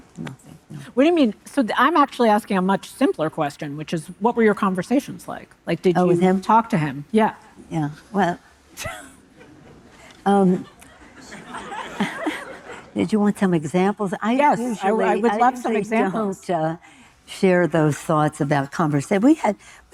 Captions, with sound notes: - What do you mean? So I'm actually asking a much simpler question, which is, what were your conversations like? Like did you talk to him? - Yeah, yeah. Well. (chuckles) (audience laughing) Did you want some examples? - Yes. I would love some examples. - I usually don't share those thoughts about conversations.